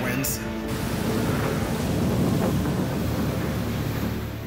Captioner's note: wind whipping